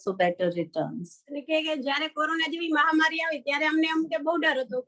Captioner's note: non-english speech